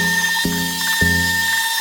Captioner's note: drill whirring